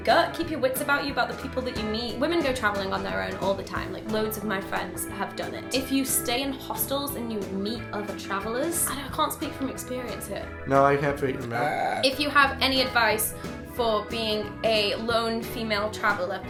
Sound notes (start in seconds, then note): 10.5 mumbling; 11.2 burps